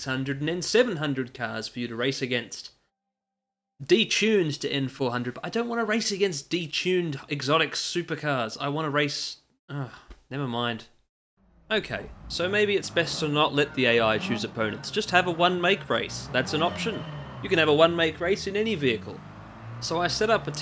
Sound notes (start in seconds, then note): 9.7 sigh